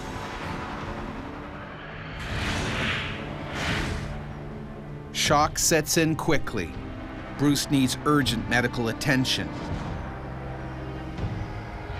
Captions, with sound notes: Yeah. (soft dramatic music) - [Voiceover] Shock sets in quickly. Bruce needs urgent medical attention.